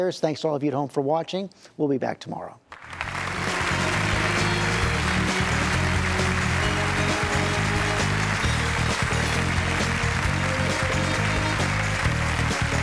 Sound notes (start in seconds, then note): 2.9 audience applauding; 4.3 upbeat music